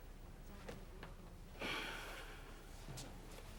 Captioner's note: sighing